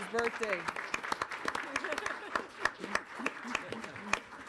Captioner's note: audience applauding